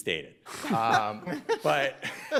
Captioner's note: justices laugh